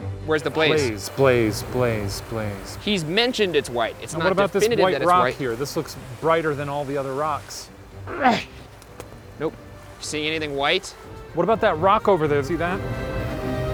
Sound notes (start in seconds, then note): 8.1 grunts